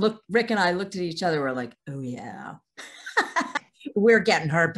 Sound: laughing

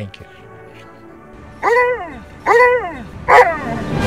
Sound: three husky howls

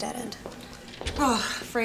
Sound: sighs

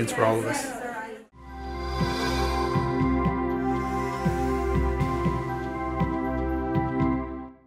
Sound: pensive music; whooshing

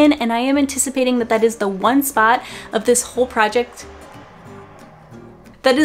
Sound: traffic noise

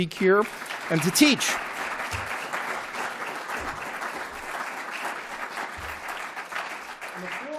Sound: applause

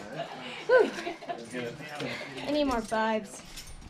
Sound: panting

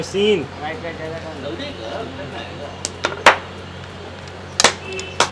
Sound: speaking foreign language

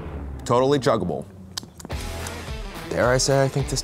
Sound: lip smacking

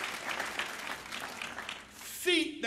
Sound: applause

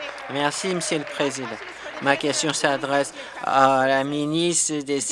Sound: applause

